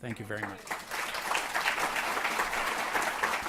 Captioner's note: applause